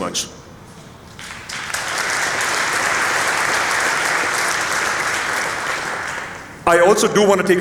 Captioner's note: applause